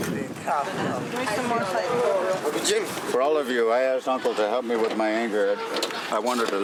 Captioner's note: talking